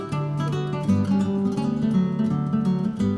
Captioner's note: none